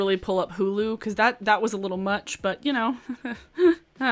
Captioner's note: giggles